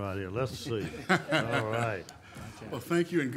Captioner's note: audience laughing